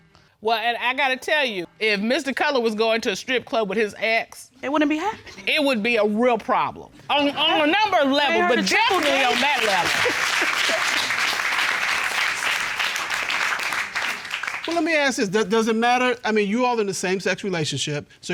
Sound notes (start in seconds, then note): 10.1 applause